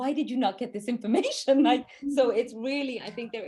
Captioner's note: chuckles